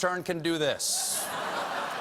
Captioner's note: laughter